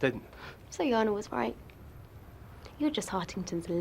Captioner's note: scoffs